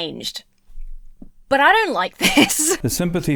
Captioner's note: chuckles nervously